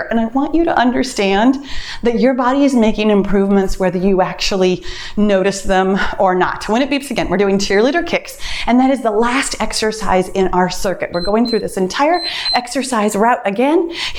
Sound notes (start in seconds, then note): 11.0 timer beeps